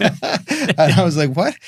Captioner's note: both laughing